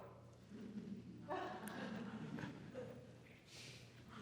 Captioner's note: attendees laughing